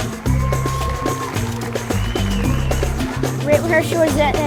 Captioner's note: chuckles; audience applauding